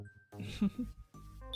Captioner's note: laughs